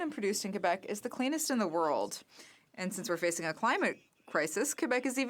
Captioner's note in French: voix de l'interprète